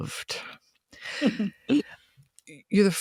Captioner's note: chuckling